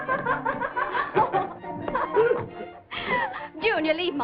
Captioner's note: laughter; laughs